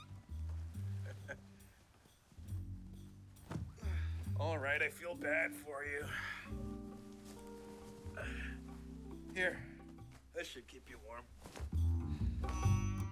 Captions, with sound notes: (laughing) (sighing) - All right, l feel bad for you. Here, this should keep you warm.